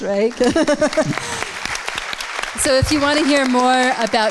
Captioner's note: audience claps